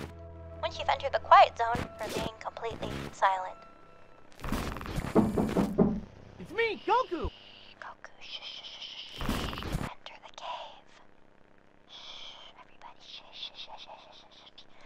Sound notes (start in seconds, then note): 5.0 knock knock; 9.7 whispering